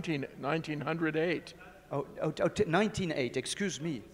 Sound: speaking faintly

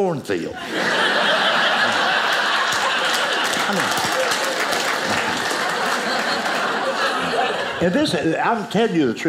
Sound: audience laughing

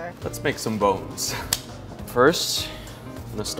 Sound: snaps glove

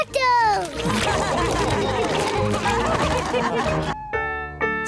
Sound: all laugh

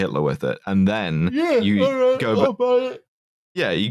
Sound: yawning

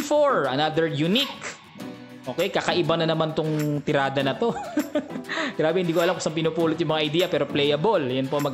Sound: laughing

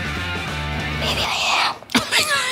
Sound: whispers

